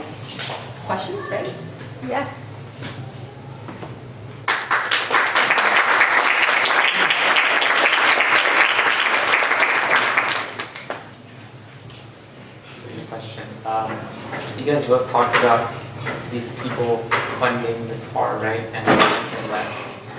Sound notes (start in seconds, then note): 4.4 applause